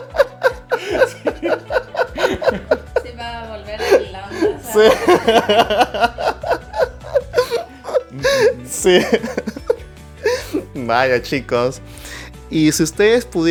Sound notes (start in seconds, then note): 7.7 laughs